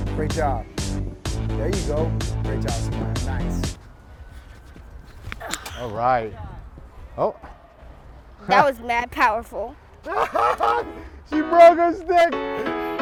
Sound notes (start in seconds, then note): 10.0 laughing